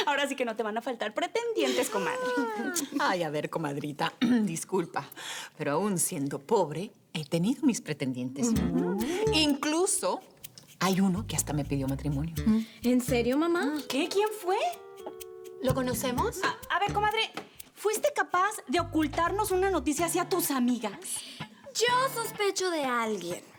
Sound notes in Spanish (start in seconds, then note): 0.0 Risas; 4.2 Carraspea